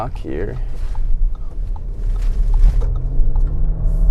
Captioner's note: blinker pinging